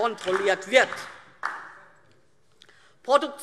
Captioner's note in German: Beifall DIE LINKE